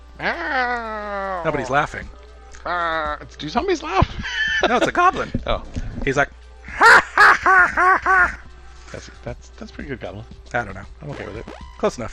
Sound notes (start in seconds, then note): 0.3 growling like a small zombie; 2.8 starts to growl like a small zombie again; 6.6 laughing like a small goblin